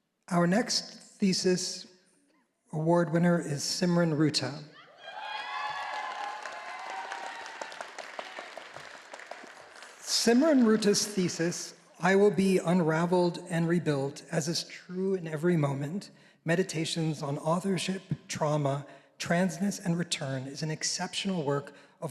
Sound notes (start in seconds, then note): 5.0 all applauding